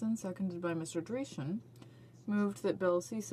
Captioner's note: speaking French